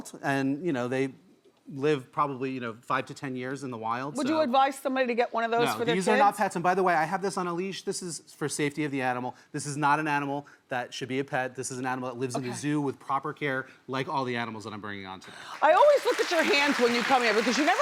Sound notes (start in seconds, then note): 15.2 audience claps enthusiastically